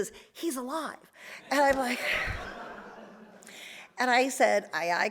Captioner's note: audience laughs